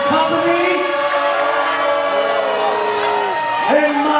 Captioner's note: audience booing